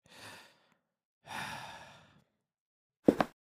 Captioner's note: sigh